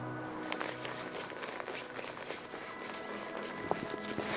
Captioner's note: fabric crinkling